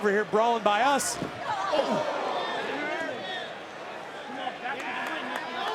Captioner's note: wrestlers groan and shout